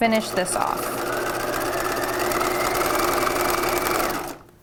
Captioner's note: machine whirring